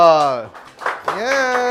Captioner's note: applause